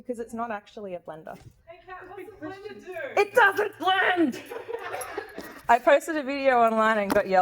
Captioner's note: laughs